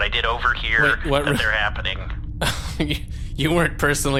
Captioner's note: half-laugh